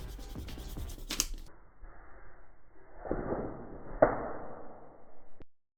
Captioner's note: paper scrunches